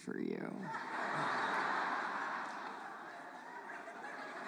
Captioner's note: audience laughs